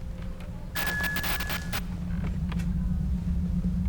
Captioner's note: static